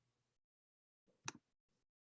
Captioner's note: click